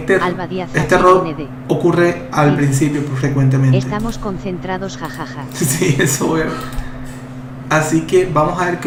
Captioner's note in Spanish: risas